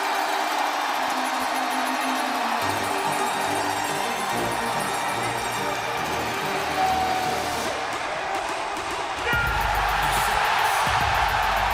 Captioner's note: cheers and applause